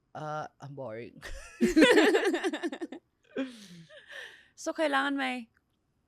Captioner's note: laughs